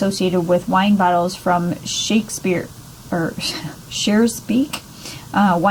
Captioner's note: chuckles